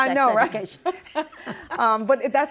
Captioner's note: laughing